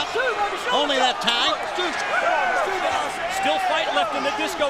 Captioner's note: crowd chatter